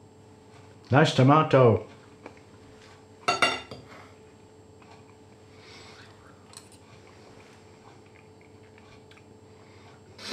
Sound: munching thoughtfully

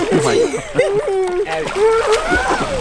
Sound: laughing

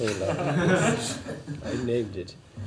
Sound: laughter

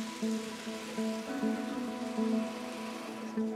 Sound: tranquil music; engine rumbles

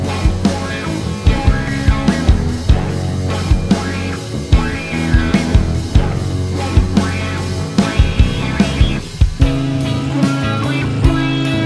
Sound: laugh

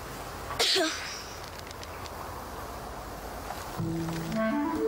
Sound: Bess coughing

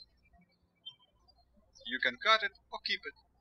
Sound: birds chirping

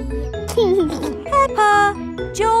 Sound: giggling

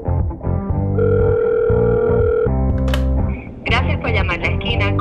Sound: phone ringing; speaking spanish

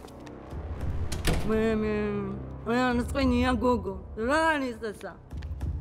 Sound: speaking georgian

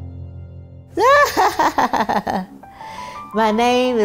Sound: laughs

